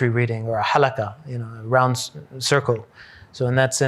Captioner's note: hebrew